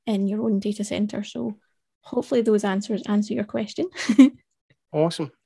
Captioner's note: chuckles